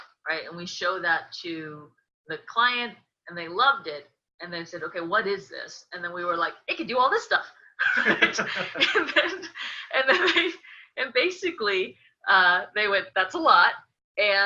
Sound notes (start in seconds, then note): 7.8 both laughing